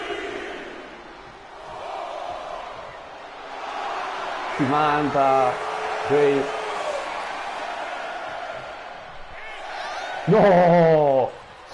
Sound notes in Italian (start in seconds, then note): 3.3 Applauso; 11.3 Applauso